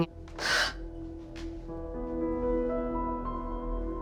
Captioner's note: sobbing